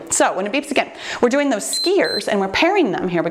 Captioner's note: timer beeps